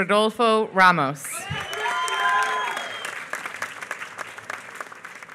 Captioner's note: applause